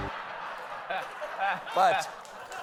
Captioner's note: laughter